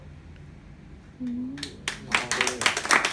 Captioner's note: applause